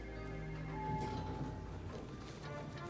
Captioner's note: bell